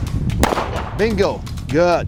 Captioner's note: gun firing